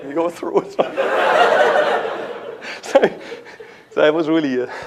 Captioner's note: laughter